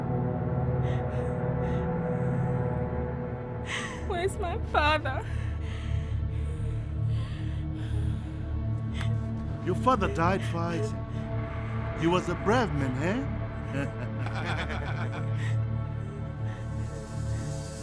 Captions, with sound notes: - Where is my father? - Your father died fighting. He was a brave man, eh? (laughing)